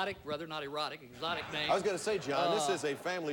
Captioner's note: audience laughing